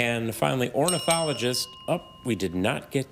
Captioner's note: bell dings twice